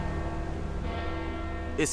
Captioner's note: church bell ringing